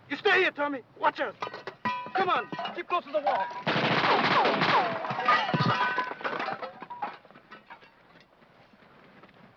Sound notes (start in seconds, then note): 3.6 guns firing; 3.9 metal clanking